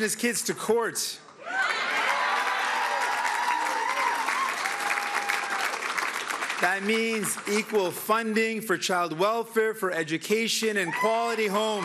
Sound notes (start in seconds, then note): 1.4 cheering; 10.8 cheering